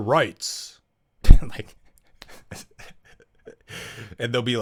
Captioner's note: laugh